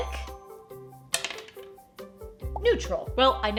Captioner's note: die clacks